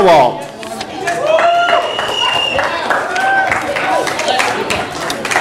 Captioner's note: audience applause